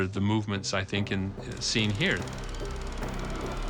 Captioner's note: projector clicking